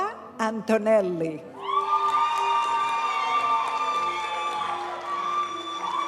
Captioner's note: audience cheering and applauding; graduation music